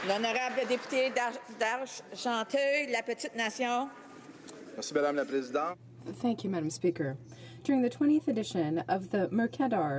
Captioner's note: some Applause